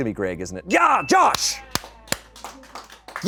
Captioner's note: bell dings